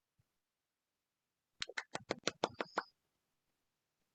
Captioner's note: smacking lips